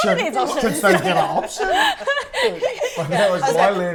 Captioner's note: laughter